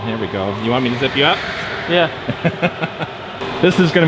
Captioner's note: laughs